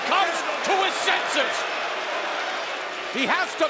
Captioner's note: crowd boos